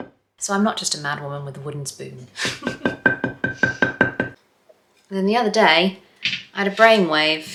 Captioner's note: tapping continues; tapping resumes